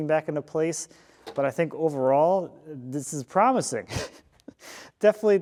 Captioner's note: chuckles